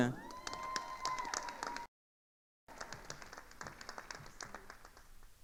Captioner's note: attendees cheering and applauding